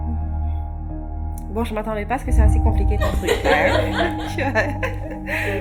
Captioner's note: laugh